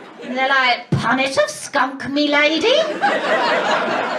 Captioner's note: mockney accent